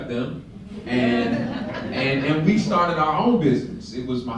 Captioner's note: laughter